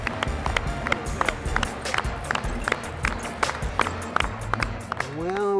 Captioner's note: clapping